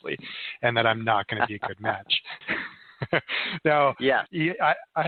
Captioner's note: laughing